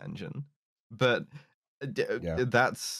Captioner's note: stammers